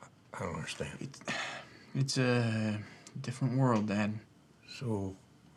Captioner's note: sighs